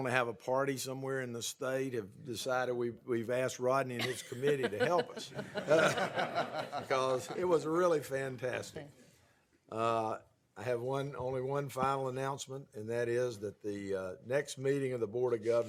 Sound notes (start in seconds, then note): 4.0 laughter